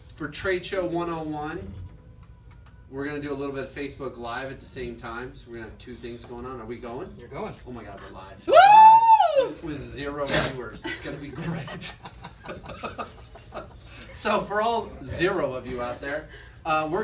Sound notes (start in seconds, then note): 12.7 laughter